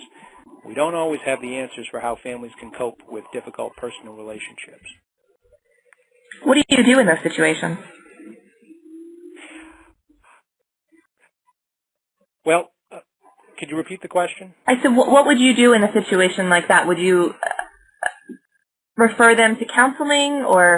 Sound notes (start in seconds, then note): 9.7 silence